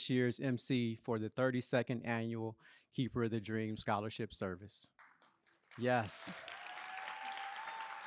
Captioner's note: applause